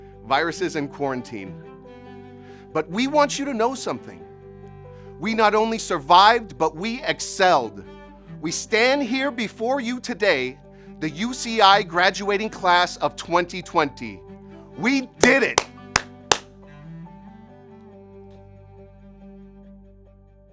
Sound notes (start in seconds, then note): 15.2 clapping